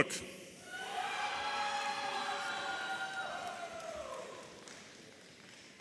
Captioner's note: audience applauding and cheering